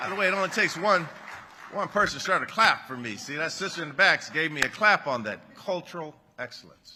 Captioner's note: applause